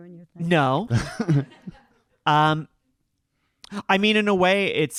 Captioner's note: audience laughing